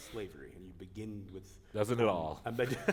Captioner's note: chuckle